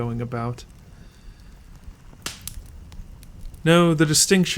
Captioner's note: louder snap from the fire